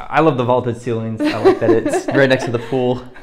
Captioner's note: laughs